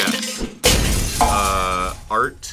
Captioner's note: glass breaking